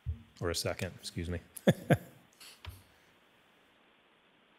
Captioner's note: laughs